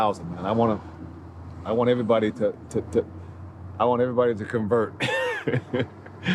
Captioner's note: laughs